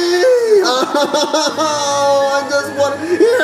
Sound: cries

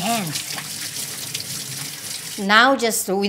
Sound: water running

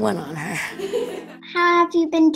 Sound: laughs

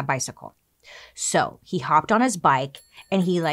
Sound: bike bell dinging

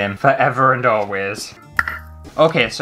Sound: tongue Pop!

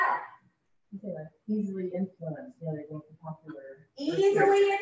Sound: audience speaking

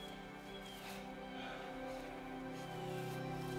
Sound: birds chirping; gentle music

